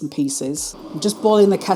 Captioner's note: kettle bubbling